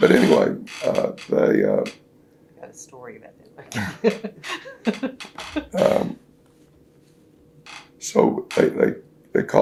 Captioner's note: laughs